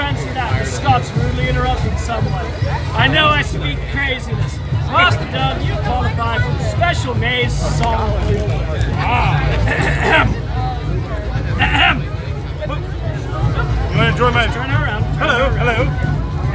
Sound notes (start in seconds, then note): 13.0 clears Throat